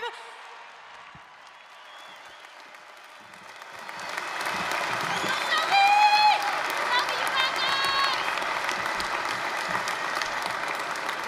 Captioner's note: applause, cheering